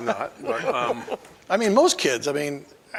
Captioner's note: laughing